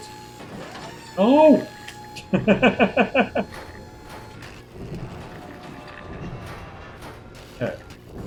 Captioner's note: laughs